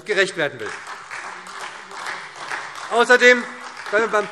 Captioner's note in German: Beifall SPD und vereinzelt DIE LINKE